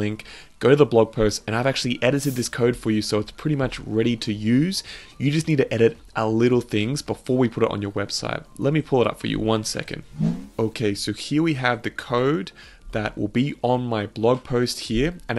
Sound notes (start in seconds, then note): 10.0 air whooshing